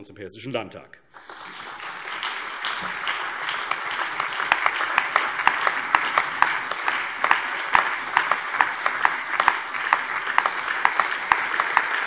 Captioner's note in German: Allgemeiner Beifall